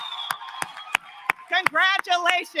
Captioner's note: applause